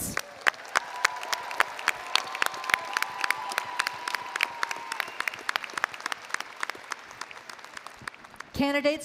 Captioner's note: applause & Cheering